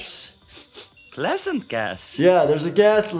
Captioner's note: Dr. Nick sniffs